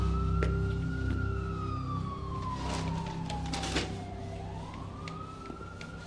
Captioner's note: siren wailing